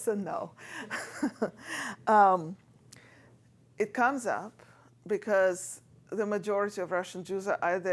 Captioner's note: laughs